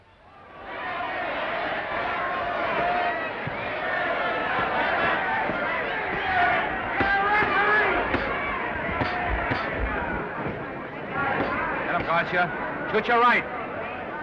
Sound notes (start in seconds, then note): 0.3 crowd cheering; 8.1 crown cheering; 8.8 punches thudding